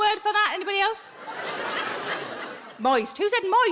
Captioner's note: audience laughing